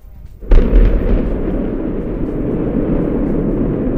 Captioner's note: rocket firing